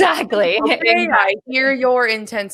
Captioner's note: laughing